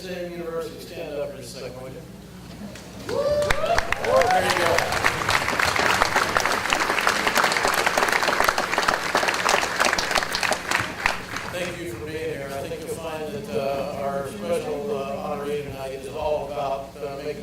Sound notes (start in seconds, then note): 3.0 audience cheers and applause